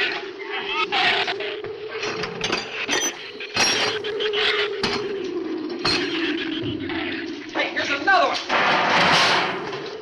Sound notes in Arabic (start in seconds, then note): 0.0 تزأر الزبابة; 0.0 تعوي الرياح